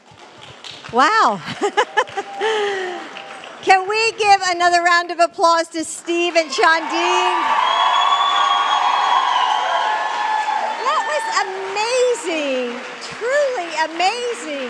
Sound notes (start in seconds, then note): 10.6 applause